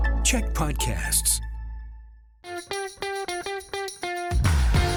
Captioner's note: announcer voice